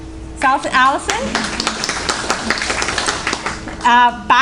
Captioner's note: applause